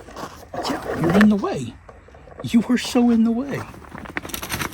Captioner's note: laughing